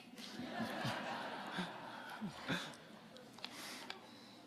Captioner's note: audience laughing